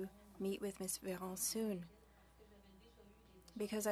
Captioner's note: speaking French